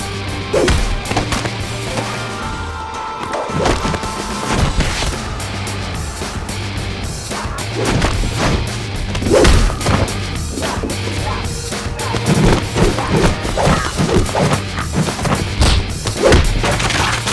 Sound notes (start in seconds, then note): 0.0 blows thudding; 7.3 gangster grunts; 12.1 air whooshing; 12.1 blows thudding